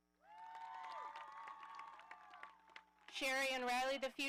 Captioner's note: audience cheering